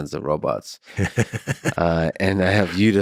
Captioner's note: laughs